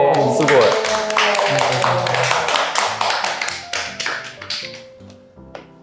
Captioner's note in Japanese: 拍手